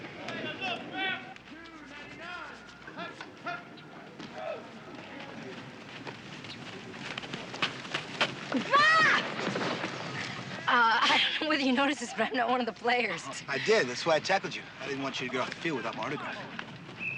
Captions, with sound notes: [players shouting] [screaming] Uh, I don't know if you noticed it, but I'm not one of the players! I did, that's why I tackled you. I didn't want you to get off the field without my autograph.